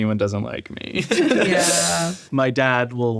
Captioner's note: all laughing